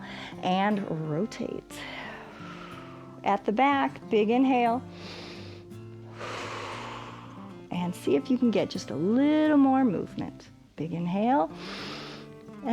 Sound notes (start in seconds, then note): 1.8 inhales; 1.8 exhales; 4.9 inhales and exhales; 11.5 inhales